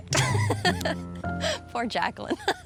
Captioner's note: laughs